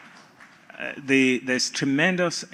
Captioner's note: applause